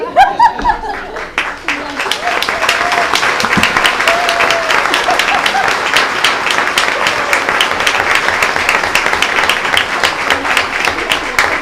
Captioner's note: applause